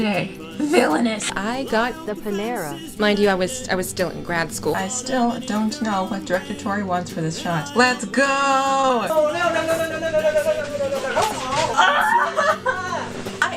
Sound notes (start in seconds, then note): 10.2 bed springs; 11.7 wailing